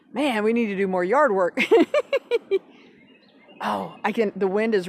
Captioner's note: laughs